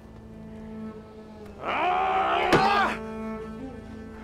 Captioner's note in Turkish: Vurma sesi